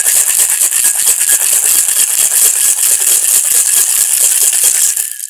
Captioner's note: ice shaking in metal